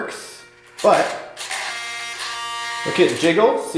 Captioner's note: robotic turning